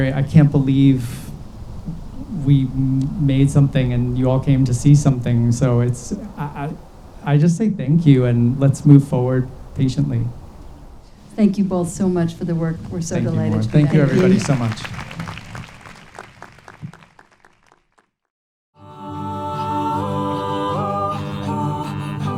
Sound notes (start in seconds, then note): 15.5 audience claps; 18.8 wordless choral music